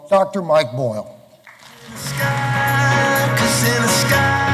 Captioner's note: applause